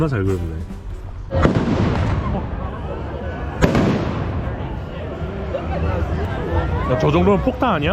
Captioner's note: end of year fireworks